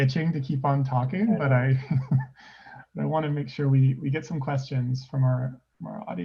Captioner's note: laughs